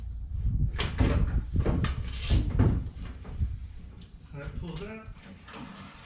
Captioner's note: metal clanging